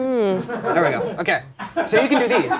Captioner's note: background laughter